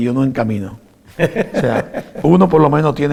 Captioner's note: haha laughs